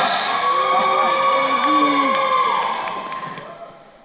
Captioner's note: crowd cheering